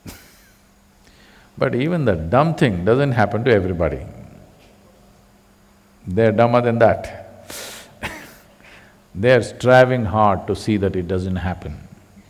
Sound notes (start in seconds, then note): 8.0 laughs